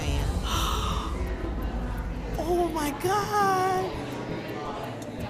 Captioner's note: gasping